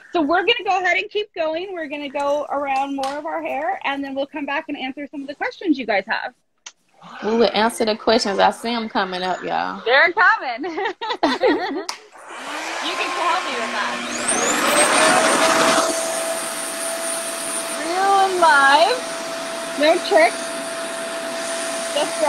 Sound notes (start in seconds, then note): 10.7 laughs; 14.9 RevAir whirs